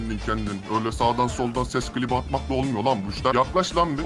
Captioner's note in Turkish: Kalın Ses Tonu